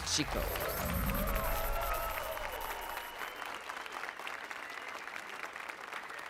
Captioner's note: applause and cheers